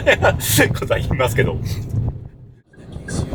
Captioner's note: laughs